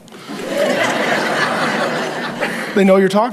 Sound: congregation laughs

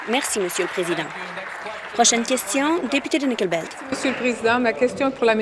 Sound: applause

